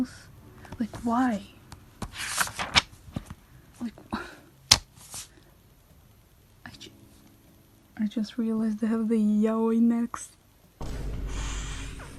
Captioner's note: sigh